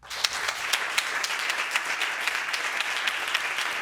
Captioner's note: audience applauding